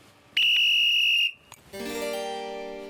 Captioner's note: whistle blows